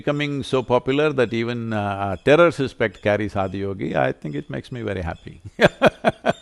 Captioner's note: laughs